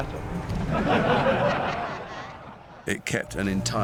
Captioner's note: voldemort's followers laugh